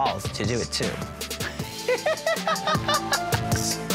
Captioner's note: laughing